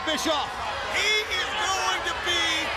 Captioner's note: crowd cheering